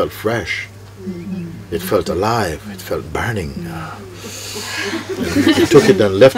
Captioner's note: laughter